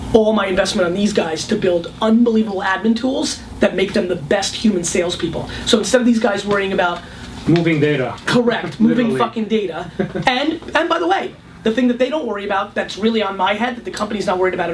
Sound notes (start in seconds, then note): 7.6 voiceover